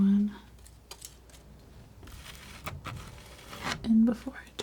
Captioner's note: scratching